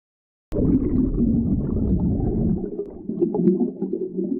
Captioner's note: water rippling